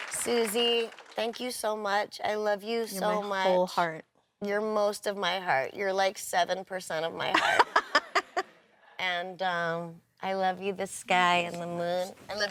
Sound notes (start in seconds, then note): 7.8 laughs